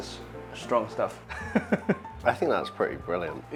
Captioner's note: laughs